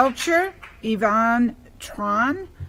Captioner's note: applause